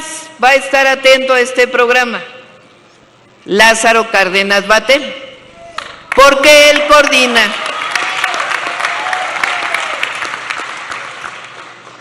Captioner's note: applause